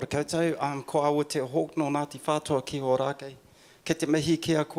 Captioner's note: speaking in foreign language